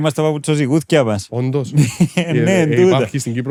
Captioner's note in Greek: γέλια